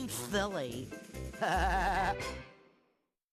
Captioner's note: laughing